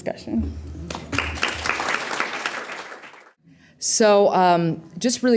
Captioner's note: applause